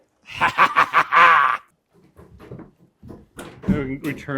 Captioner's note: laughs